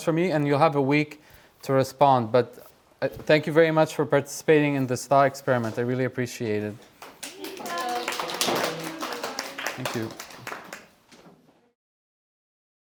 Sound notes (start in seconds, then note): 7.0 applause